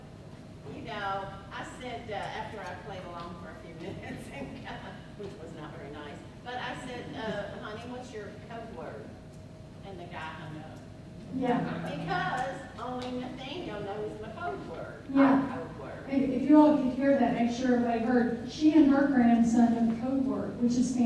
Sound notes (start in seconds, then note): 4.7 she laughs